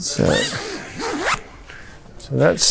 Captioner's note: zipper zipping